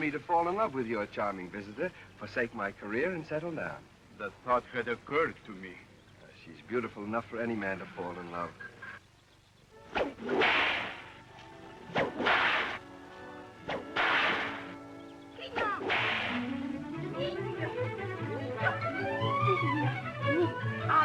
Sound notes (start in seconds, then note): 9.8 cracking whip; 15.5 cracking whip; 16.2 uptempo music